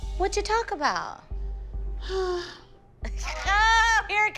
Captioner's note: sighs